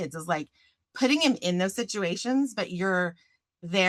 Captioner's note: none